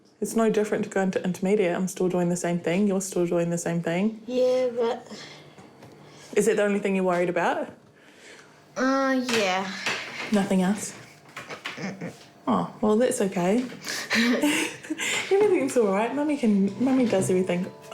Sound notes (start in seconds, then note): 13.8 chuckles